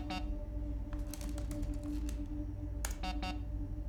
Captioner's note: computer beeps; fingers tapping; computer beeps